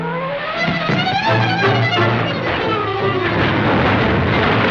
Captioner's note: car crashing